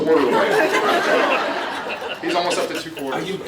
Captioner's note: laughs